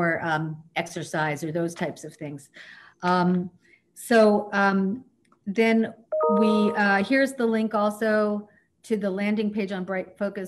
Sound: computer sound

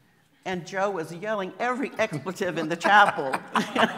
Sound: laughing

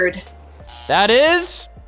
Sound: buzzer

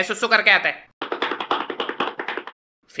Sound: walking Sound

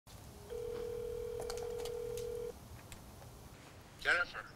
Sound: phone ringing

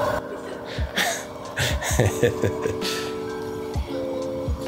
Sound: laughs

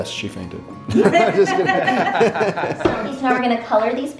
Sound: group laughs

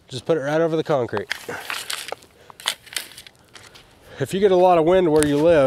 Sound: shovel rattling

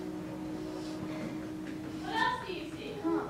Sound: sniffing

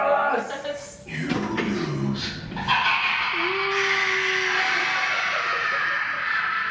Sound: laughter

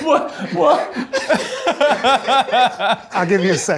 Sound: laughing

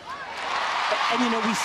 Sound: crowd cheering

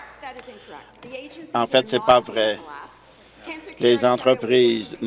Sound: applause

